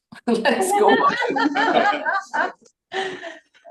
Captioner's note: laughter